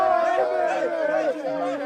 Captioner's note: applause